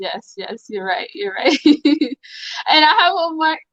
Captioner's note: laughs